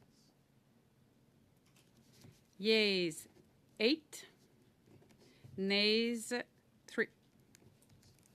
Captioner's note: speaking French